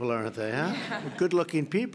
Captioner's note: laughter